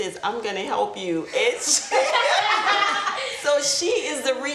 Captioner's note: group laughs